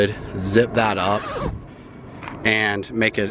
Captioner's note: zipper snapping